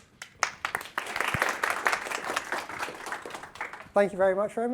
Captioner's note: audience applauding